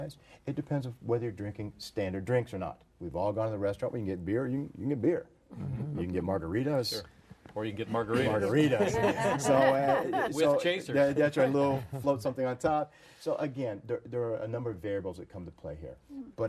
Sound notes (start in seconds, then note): 8.4 group laughter